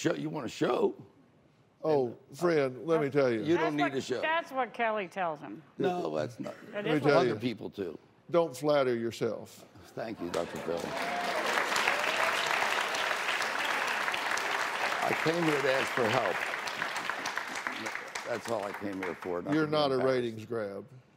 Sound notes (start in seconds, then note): 14.0 applause, scattered cheers